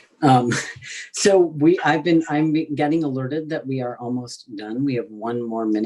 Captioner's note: laughs